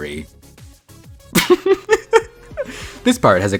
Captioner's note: laughter